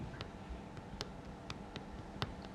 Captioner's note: soft tapping sounds